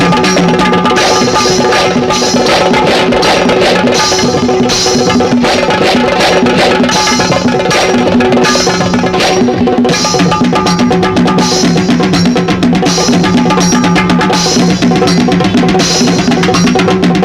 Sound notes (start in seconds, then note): none